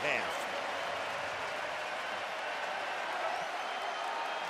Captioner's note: crowd cheering